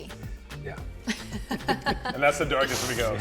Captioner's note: laughing